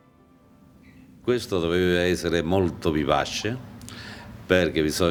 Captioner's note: speaking Italian